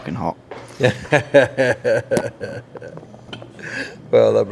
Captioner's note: laughs